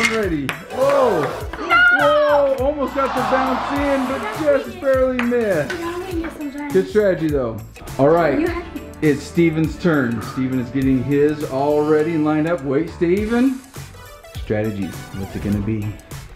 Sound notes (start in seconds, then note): 0.0 ball clacks; 1.0 big whoa from audience